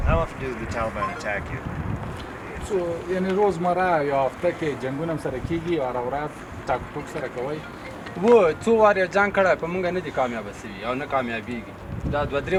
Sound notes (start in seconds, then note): 0.0 speaking in a foreign language; 2.9 translator speaking in a foreign language; 8.8 speaking in a foreign language